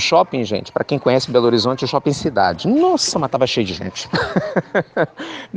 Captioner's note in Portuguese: risos